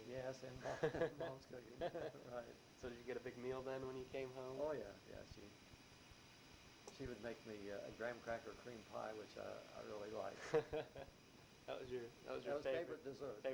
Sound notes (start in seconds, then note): 0.6 both chuckle; 10.3 chuckles